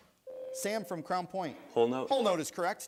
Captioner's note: buzzer sounds